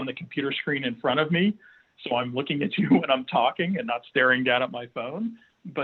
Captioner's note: chuckles